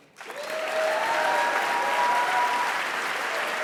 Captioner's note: applause and Cheers